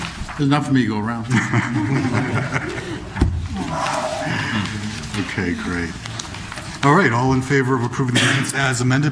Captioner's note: laughter